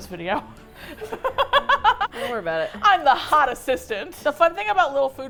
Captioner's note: laughs